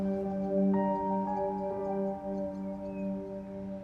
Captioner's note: birds chirping